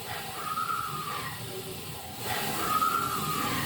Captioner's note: voice screams